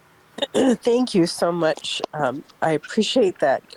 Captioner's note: clears throat